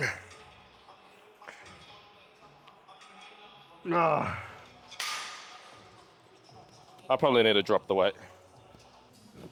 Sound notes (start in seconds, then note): 0.0 soft music; 3.9 grunting